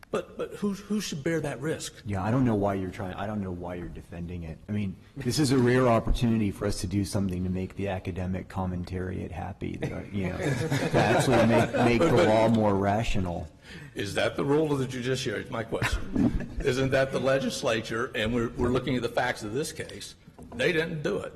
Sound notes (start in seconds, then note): 15.7 laughter